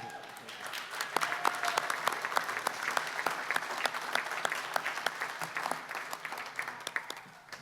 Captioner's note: applause